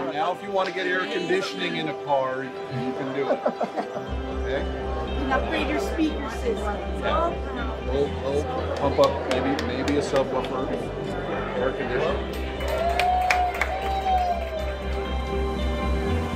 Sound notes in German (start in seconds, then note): 2.7 Lachen; 12.2 Jubeln